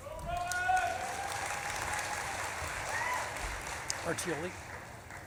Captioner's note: audience claps and cheers